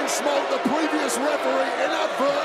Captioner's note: crowd boos